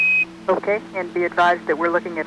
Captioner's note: beeps